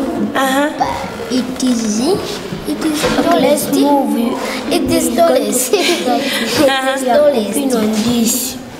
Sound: laughs

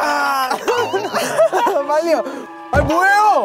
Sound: grunt... hahaha!

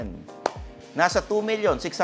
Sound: claps

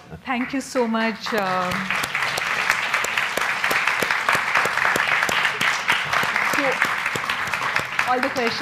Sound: audience clapping

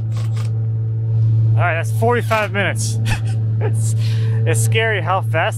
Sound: laughs

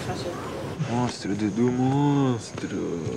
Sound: speaking in foreign language

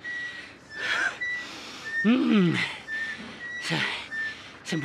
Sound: short of breath

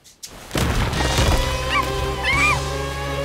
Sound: barking

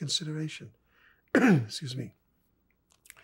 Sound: coughing

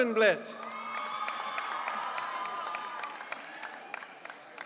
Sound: audience cheering

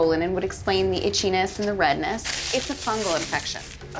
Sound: none

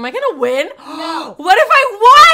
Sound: gasps

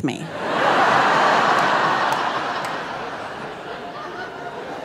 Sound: audience laughing

